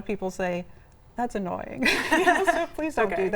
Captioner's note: laughs